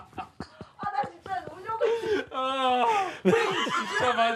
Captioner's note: everyone is laughing out loud